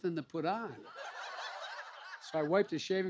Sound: laughter

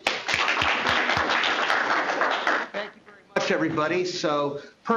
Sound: applause

